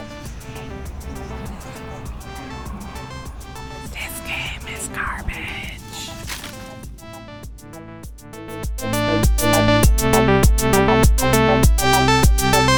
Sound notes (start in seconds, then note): 3.5 whispering